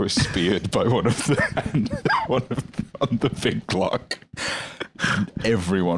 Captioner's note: laughing